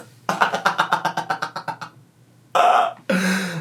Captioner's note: laughing